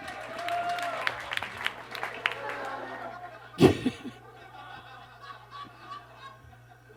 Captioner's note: audience claps; laughs